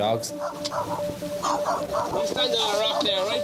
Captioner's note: dogs barking